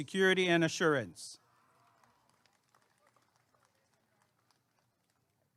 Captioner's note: applause and cheering